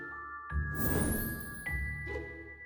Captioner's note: whoosh